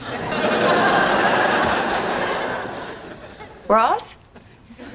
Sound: audience laughing

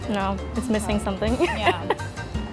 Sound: laughs

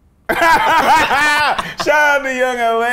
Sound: both Laugh

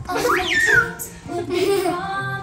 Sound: laughing

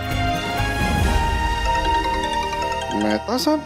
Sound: mobile phone ringing

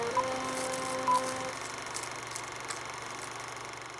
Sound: none

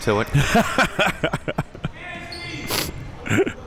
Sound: laughing

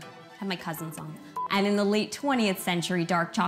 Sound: beep

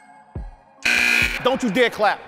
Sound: timer buzzes

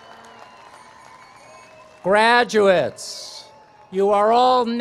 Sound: cheers and applause

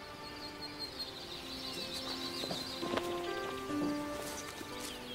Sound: insects chirping; somber music

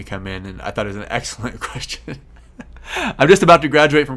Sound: laughs

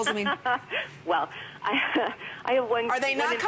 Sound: laughter

